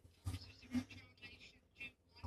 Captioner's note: speaking French